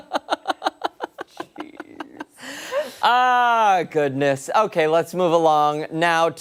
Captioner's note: laughter